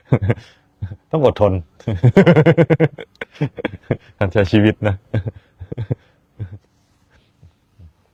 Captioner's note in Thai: เสียงหัวเราะ; เสียงหัวเราะ